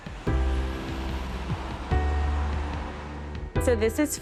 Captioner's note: voices chattering